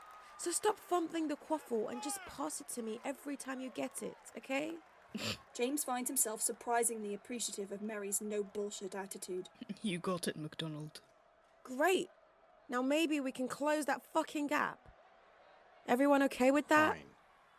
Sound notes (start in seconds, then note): 5.1 James snorts